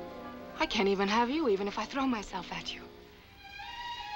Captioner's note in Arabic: none